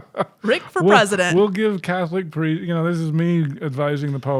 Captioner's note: chuckling